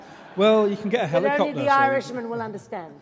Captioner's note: laughing